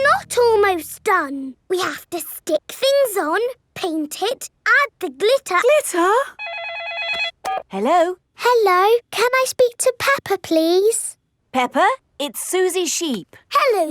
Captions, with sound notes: It's not almost done. We have to stick things on, paint it, add the glitter... Glitter? -(PHONE RINGS) -Hello? Hello, can I speak to Peppa, please? Peppa, it's Suzy Sheep.